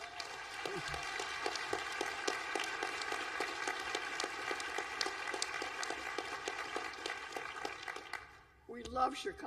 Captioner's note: applause